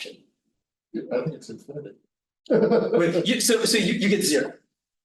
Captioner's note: chuckles